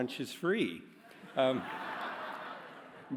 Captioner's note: laughter